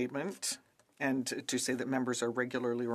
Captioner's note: speaking French